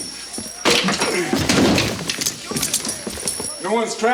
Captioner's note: chair clatters